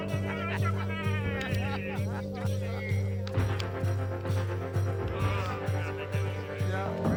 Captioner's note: exclaiming